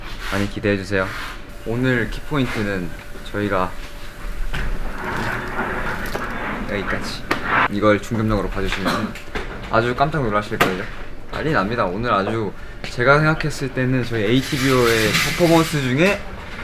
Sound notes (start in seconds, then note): 4.8 Swish